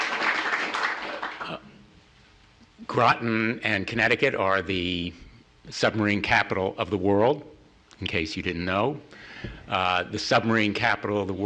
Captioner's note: applause